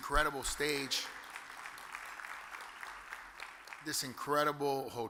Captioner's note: audience applause